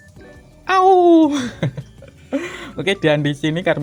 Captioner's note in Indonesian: tertawa